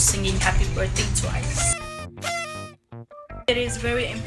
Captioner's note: party horn sound effect X 2